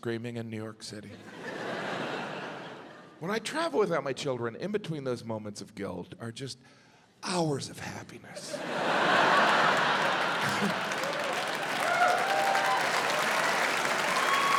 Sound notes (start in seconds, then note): 1.2 audience laughs; 8.4 audience laughs; 11.3 audience cheering, applauding